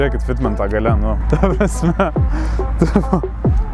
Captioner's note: laughing